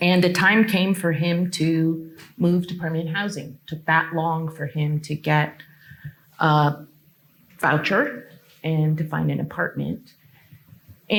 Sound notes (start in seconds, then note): none